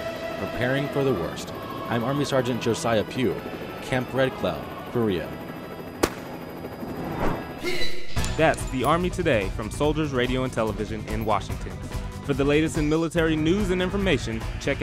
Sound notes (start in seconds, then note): 5.1 helicopter whirring; 7.6 upbeat music